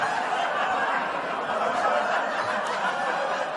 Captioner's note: laughter